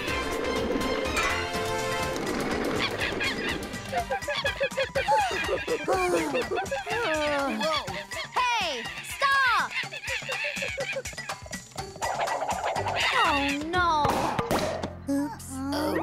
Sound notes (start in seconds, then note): 3.4 monkey cries; 4.8 gasping; 10.0 monkey cries